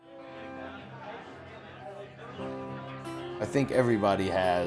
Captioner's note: crowd chattering